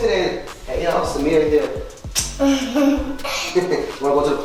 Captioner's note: lips smooch